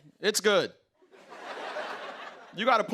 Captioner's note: laughter